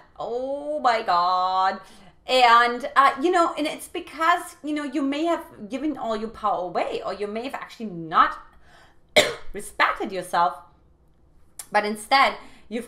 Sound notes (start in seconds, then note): 9.1 coughs